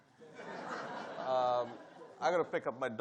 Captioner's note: audience laughing